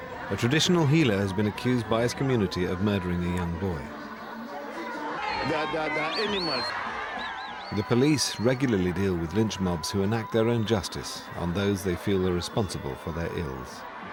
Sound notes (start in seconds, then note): 4.8 crowd shouts